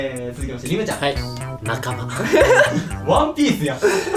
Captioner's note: laughs